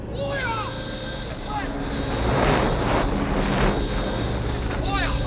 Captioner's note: alarm sounding